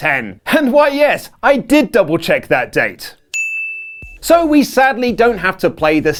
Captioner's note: ding sound on wink